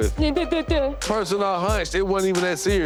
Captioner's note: muttering